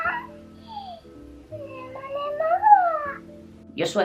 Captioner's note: more kawaii noises; even more kawaii noises